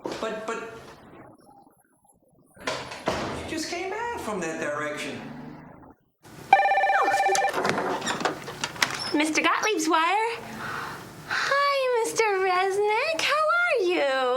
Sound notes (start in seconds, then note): 6.5 phone ringing